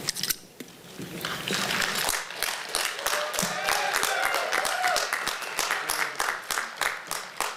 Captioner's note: applause